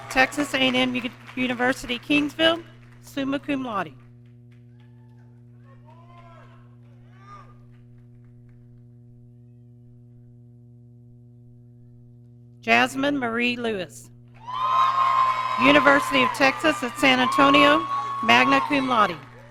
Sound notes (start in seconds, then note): 14.4 audience cheering